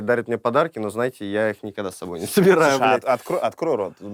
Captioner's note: laughs